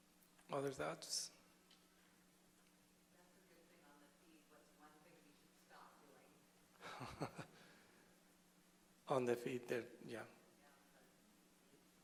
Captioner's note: laughter